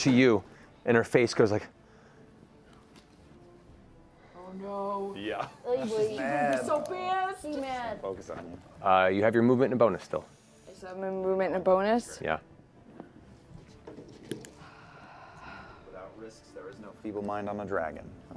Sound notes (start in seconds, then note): 14.5 sighs